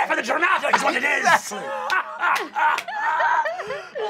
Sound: laughs loudly

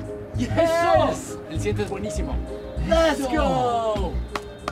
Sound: in Spanish; claps hands

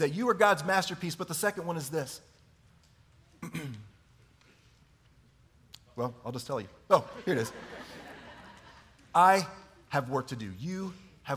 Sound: chuckling

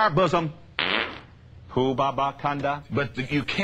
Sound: loud fart

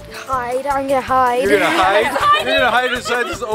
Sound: laughing

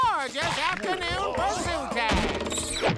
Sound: blowing whistle

